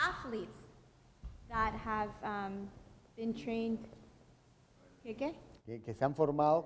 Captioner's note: speaking in Spanish